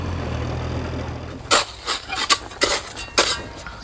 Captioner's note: shovel noises